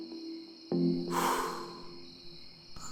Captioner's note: deep exhale